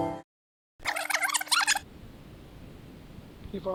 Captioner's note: tape rewind